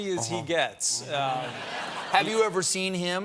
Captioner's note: laughter